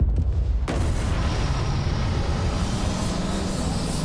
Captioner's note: engine whirring